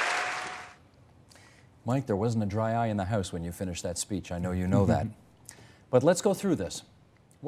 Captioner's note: applause